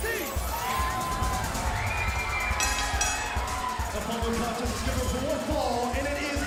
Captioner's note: bell ringing